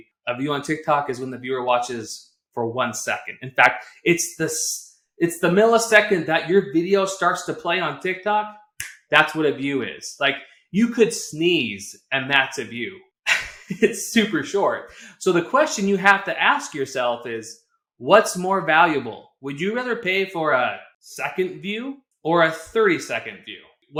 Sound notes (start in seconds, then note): 13.2 laughter